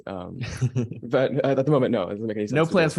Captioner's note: laughing